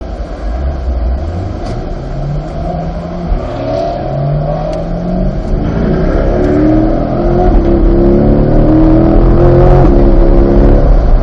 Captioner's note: sounds of the engine revving